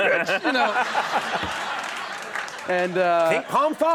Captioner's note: audience laughs